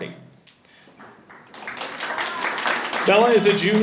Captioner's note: audience applauding